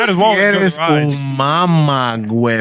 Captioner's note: speaking Spanish